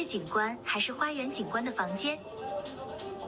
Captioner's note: non-english